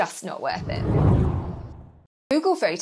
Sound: screen whooshing

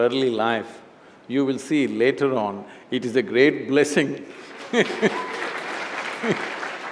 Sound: applause

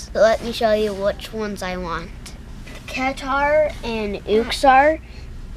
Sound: none

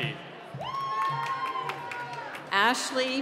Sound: cheering

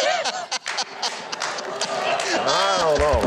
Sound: crowd clapping

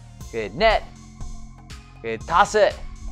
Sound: speaking in foreign language

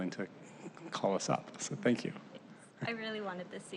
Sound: laughter

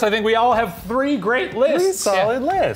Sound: none

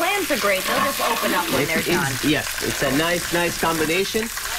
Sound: sizzling loudly

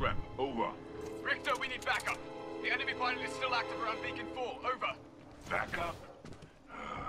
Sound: radio

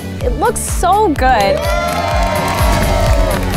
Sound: crowd cheering

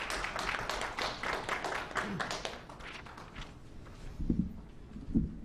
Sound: clapping

